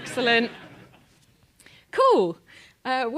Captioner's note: laugh